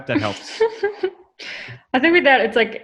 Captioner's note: laughs